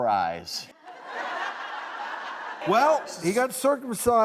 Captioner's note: audience laughs